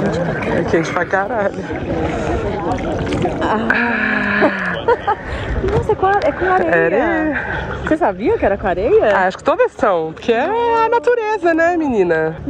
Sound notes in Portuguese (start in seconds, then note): 3.6 ambas suspiram